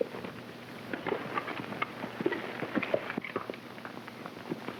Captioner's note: hooves clopping